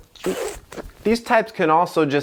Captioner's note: sound of exasperation